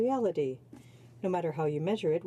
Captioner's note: speaking in french